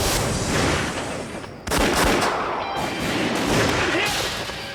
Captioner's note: gunfire